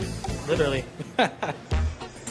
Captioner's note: laughs